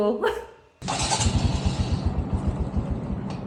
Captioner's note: engine starting